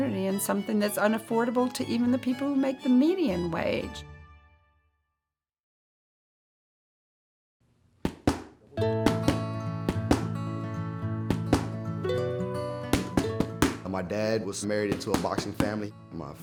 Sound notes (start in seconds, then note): 8.5 soothing guitar music; 9.7 fists thudding